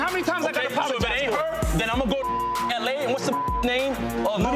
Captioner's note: beep